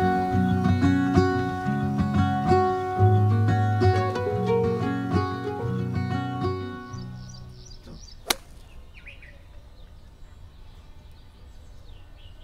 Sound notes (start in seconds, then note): 0.0 serene music; 7.8 golf club smacks